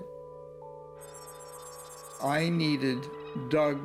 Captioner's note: beeping